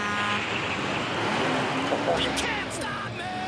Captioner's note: truck horn honks